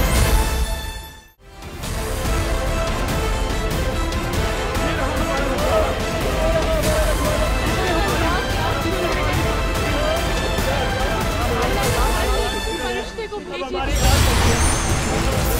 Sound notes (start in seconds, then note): 4.2 theme music playing; 6.9 indistinct chatter; 12.2 indistinct chatter